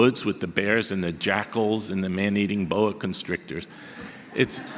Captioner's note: audience laughter